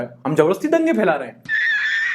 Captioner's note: laugh